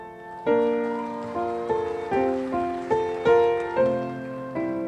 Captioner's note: audience whooping